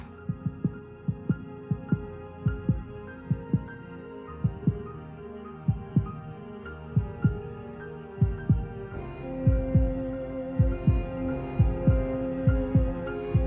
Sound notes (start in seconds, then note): 0.1 rapid heartbeats; 5.1 heartbeat slows